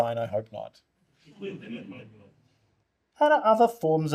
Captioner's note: audience laughter